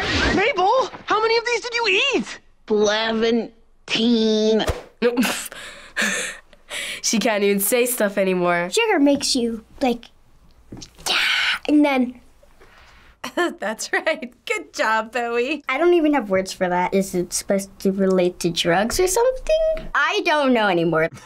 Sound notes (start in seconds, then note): 5.1 chuckles; 12.3 chuckles